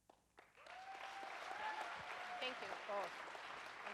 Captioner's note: audience cheers and applauds